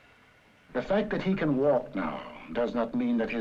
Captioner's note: voiceover